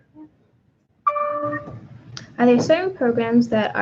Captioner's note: computer dings